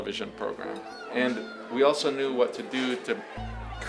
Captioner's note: people shouting faintly